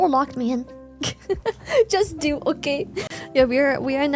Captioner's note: laughs